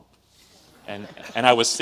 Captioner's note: audience laughs